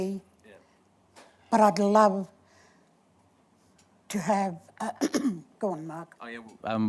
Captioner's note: coughs